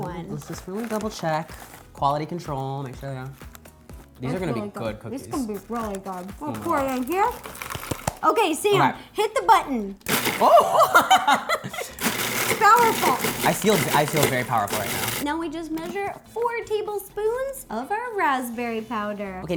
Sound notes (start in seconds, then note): 3.3 om nom nom; 10.1 raspberries blending; 10.3 oohing and giggling